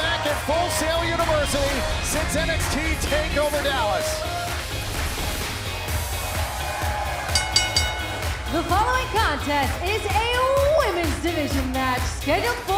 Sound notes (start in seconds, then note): 3.0 crowd cheering; 7.2 bell ringing